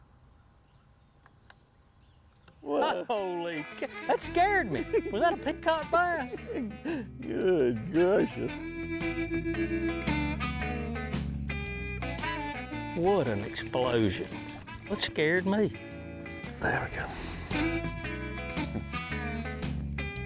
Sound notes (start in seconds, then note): 5.2 laughing; 7.8 relaxed country music; 16.7 relaxed country music